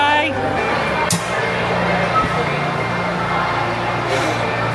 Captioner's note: locker clacking